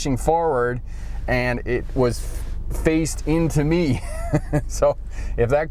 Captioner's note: laughs